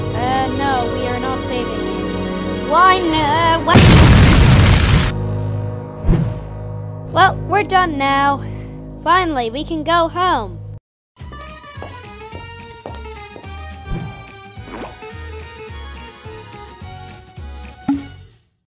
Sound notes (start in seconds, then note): 3.7 explosion